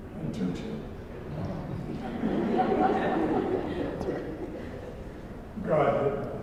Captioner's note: laugh